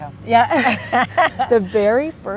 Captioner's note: both laughing